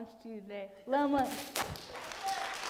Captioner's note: speaks in foreign language; audience applauds